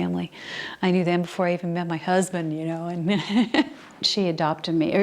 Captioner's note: laughs